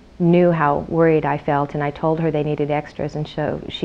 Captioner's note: none